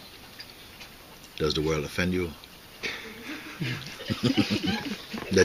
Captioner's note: laughter